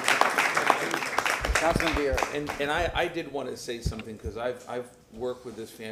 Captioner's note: applause